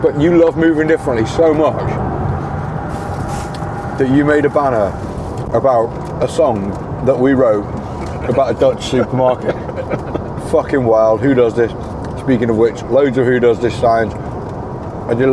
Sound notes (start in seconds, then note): 9.6 laughter